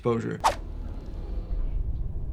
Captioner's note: air whooshing; somber tense music